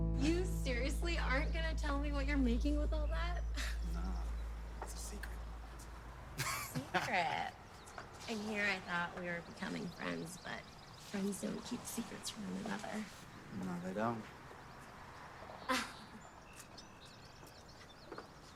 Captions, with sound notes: - You seriously aren't gonna tell me what you're making with all that? - No, it's a secret. (Noah laughs) - A secret? And here I thought we were becoming friends, but friends don't keep secrets from one another. - No, they don't. (Cassie laughs)